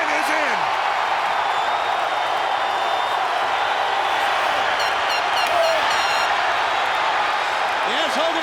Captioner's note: applause